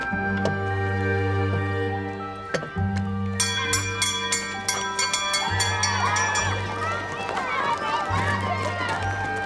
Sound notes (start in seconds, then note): 3.4 bell ringing; 6.2 children chattering